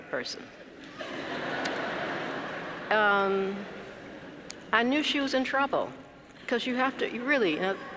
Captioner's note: laugh